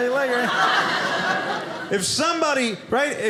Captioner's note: audience laughing